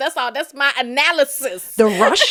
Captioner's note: laughter